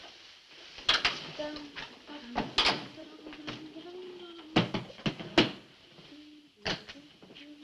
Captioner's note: humming a tune